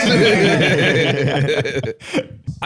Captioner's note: all laughing